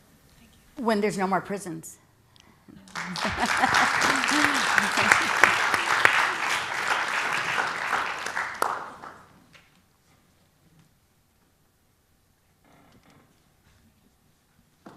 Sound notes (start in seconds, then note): 2.8 applause; 2.9 laugh